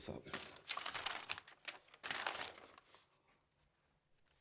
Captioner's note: papers rustle